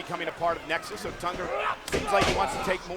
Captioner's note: body thudding